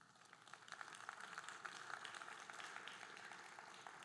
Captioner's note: audience applauding